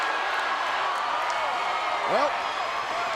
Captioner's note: applause